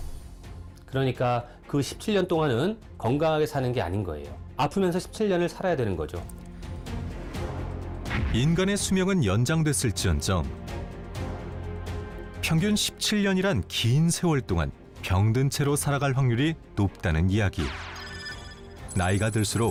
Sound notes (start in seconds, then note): 6.9 voiceover